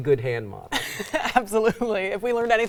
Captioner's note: laughs